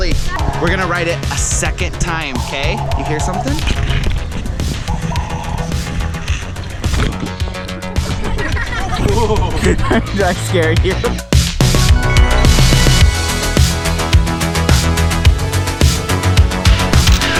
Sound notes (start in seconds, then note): 4.4 bird calling; 8.0 laughing; 12.3 upbeat music